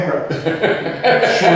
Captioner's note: laughing